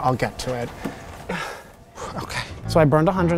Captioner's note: sighs